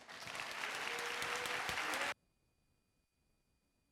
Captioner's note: audience applauding